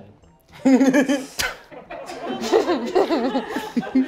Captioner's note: laughter